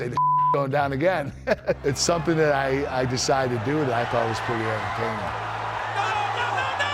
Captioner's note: laugh